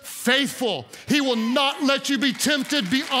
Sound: congregants cheer

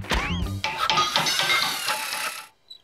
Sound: hammering and metal clanging

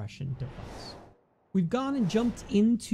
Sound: whooshing

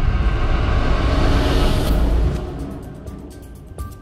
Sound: rumble climaxes and fades

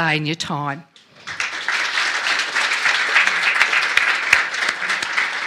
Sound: applause

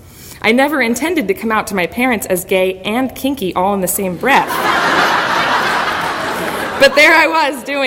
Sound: audience laughter

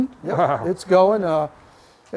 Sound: laughs

